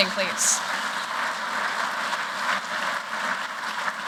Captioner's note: applause